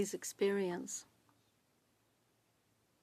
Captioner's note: speaking French